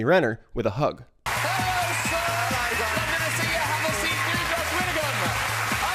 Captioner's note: audience applauding